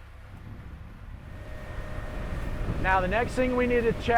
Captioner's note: wind whooshing